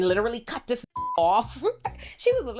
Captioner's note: beep